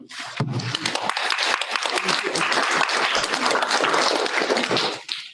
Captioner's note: audience applauding